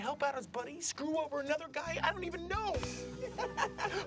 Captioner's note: laughs